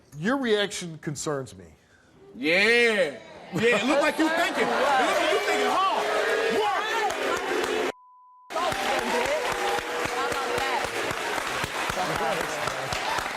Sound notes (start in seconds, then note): 6.8 audience cheers